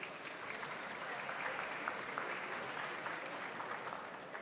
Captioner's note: audience applauds